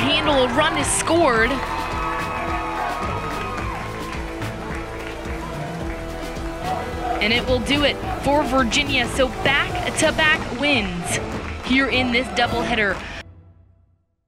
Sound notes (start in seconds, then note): 0.0 cheering